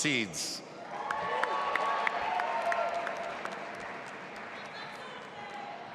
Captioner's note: audience applauding and cheering